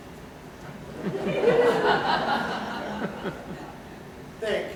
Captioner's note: laughter